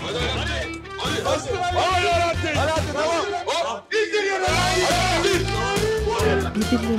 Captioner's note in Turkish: Hep bir ağızdan